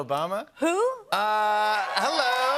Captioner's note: cheers and applause